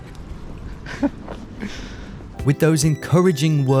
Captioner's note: laughs